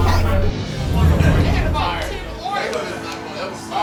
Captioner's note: chatter